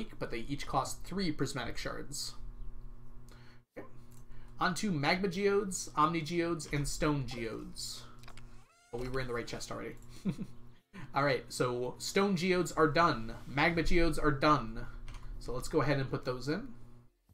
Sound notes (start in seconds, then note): 10.0 chuckles